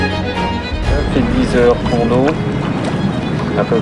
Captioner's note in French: Parle au talkie walkie